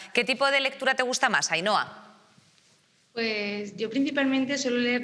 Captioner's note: none